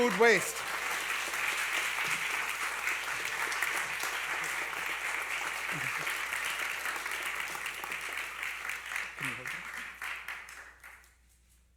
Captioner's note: applause